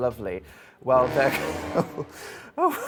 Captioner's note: dramatic sound effect; laughing